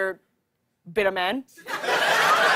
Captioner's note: laughter